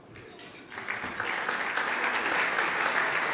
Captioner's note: applause